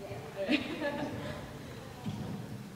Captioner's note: laughing